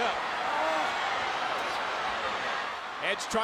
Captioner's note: audience cheering